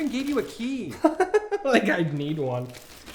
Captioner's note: laughs